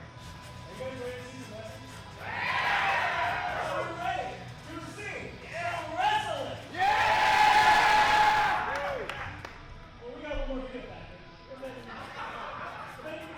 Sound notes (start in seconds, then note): 6.7 crowd cheering